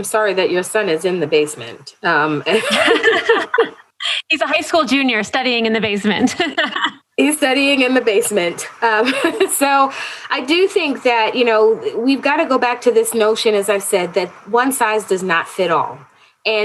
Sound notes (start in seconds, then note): 2.5 laughter